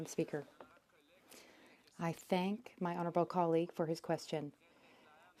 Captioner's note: speaking French